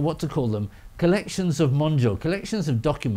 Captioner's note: speaking Japanese